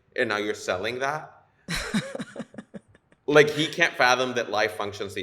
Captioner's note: laughter